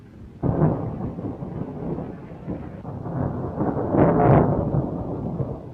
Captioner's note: thunder rumbling